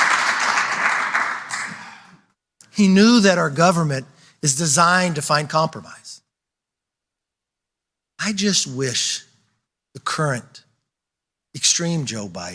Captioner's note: applause